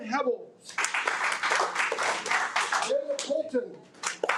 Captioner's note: audience applauding